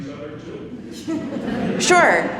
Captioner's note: attendees laughing